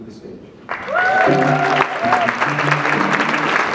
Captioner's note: audience clapping; jazz music